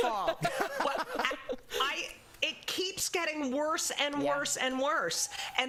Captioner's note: laughter